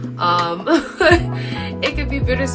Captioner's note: laughs